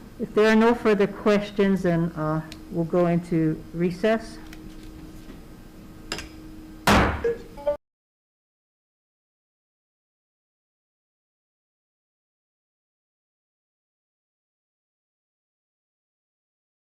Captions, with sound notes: If there are no further questions then we'll go into recess, (gavel bangs)